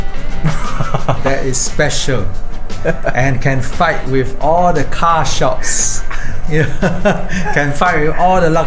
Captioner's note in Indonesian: tertawa